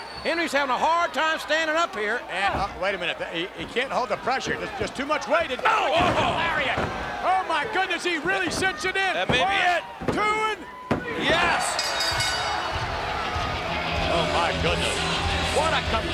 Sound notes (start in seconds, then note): 11.5 bell dinging